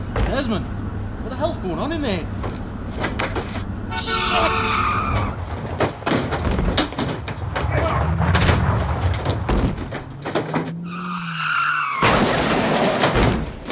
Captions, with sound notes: - Desmond. What the hell's going on in there? Shit! [car horn blasting] [car crashing]